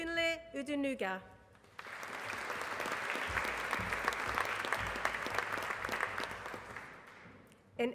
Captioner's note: applause